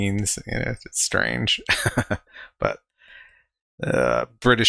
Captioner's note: laughing